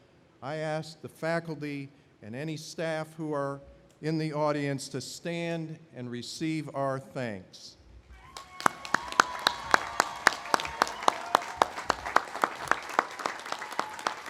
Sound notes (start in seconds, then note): 8.2 audience applauding